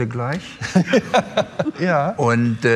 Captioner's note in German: Lachen